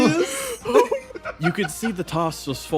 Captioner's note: laughs